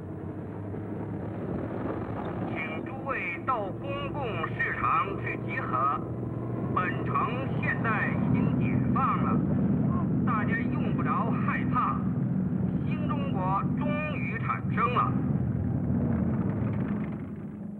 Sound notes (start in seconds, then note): 0.0 vehicles rumbling loudly; 2.2 speaking Chinese over loudspeaker; 2.2 vehicles rumbling